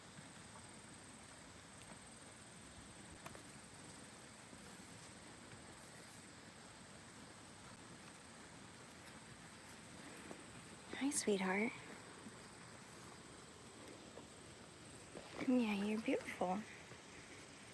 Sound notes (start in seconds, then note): none